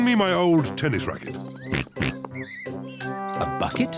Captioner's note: oinks